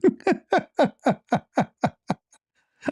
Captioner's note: ketawa